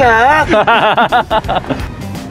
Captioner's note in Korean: 웃음소리